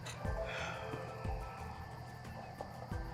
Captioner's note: sighs